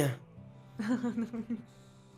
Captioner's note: laughs